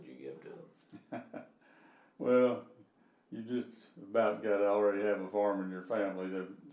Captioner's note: laughing